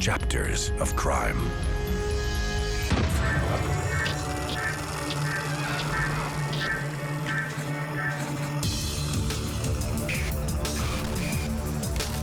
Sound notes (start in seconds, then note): 2.7 intense music; 2.7 projector whirring; 5.2 roaring; 5.5 electrical sparking